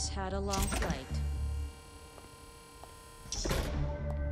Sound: door opens

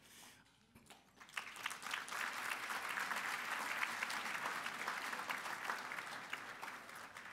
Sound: applause

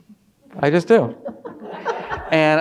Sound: audience laughing

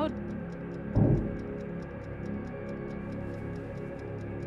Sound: object thuds

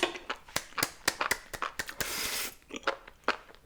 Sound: clap clap clap

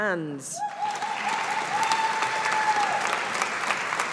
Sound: audience applauding

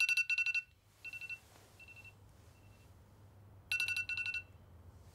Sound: alarm clock

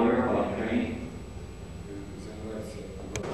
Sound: non-english speech

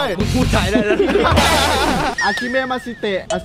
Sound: laughs; mumbling in Japanese

